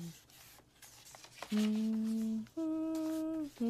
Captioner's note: pages rustle